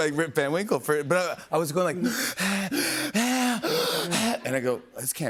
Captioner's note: breathing heavily